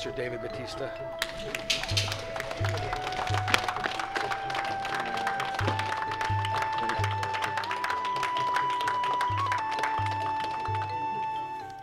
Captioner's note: applause